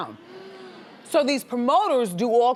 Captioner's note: audience hums